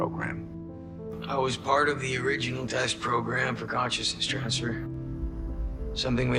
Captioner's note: voiceover